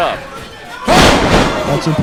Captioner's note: loud thud